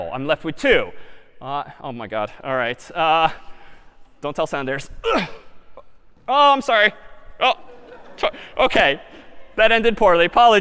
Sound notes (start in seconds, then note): 5.1 grunts; 7.6 laughter